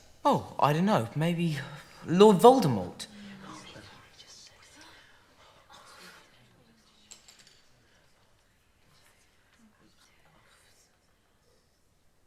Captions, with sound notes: Oh, I don't know, maybe Lord Voldemort? [Whispers] Oh my God, he just said it...